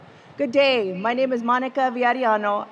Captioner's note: speaking foreign language